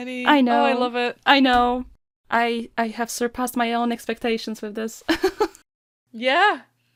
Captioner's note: laughs